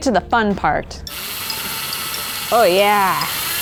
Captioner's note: drill buzzes